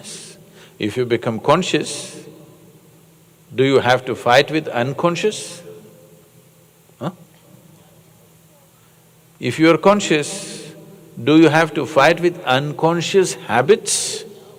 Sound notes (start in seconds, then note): none